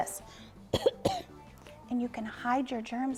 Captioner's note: coughs